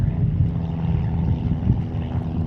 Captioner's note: airplane engine